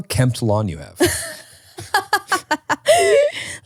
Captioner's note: laughing